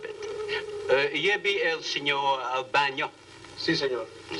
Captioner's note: speaking spanish